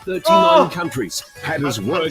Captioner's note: shouts